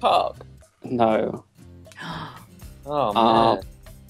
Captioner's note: gasp